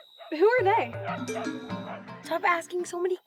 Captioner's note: dog barking; barking continues